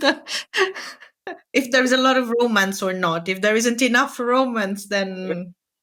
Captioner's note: laughing